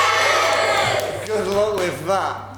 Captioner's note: audience cheers